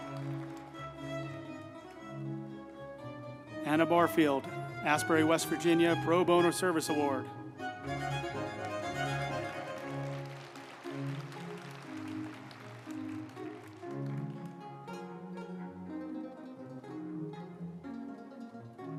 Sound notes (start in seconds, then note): 7.6 uplifting music; 7.8 group applauding